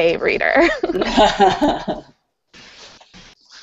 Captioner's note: laughter